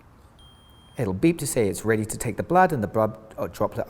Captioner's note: beep